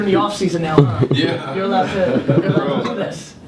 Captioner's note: laughs